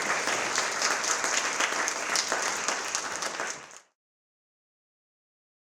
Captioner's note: applause